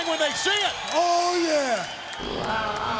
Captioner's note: crowd cheering; upbeat pop music